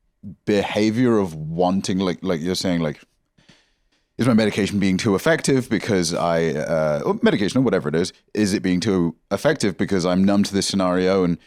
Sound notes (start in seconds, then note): none